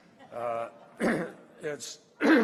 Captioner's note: laughter